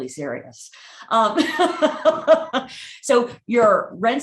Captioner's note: laughing